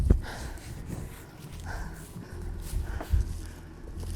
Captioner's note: sighs of relief